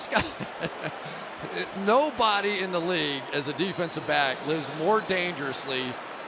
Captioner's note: laughs